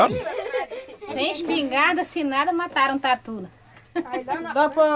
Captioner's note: Portuguese spoken audio